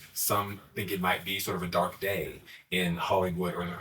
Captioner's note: none